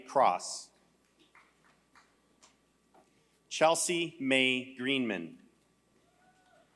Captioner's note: applause